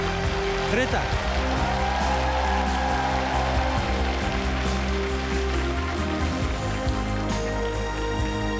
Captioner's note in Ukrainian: оплески